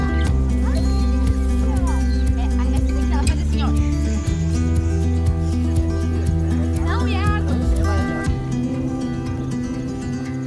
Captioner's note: buzzes